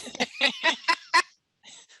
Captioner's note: laughter